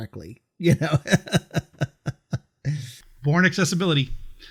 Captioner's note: laughing